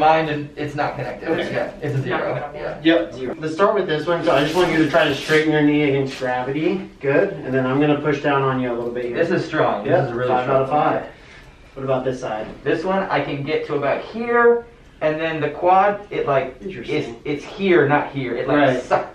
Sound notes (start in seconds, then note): 1.0 mummers